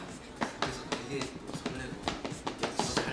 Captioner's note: Sound of foot steps